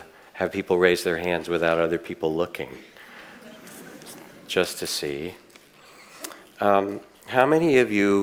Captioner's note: audience laughing